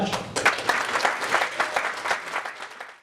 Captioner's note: applause